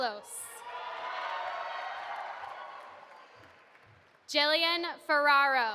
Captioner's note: audience applauding